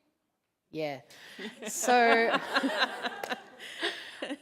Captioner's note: laughter